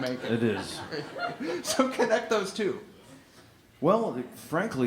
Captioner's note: laughter